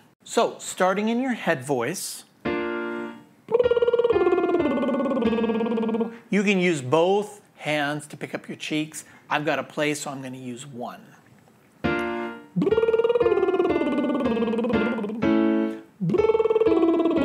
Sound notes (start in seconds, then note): 3.5 lips trilling; 11.8 piano music; 11.9 lips trilling